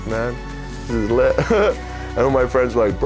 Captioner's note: laughs